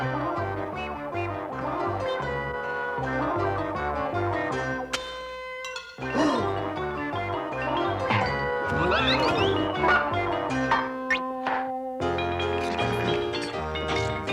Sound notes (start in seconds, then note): 6.0 gasps